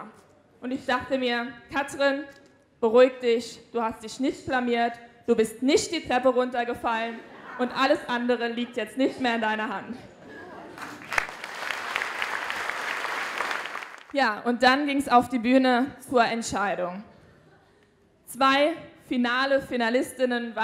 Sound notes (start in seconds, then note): 10.7 applause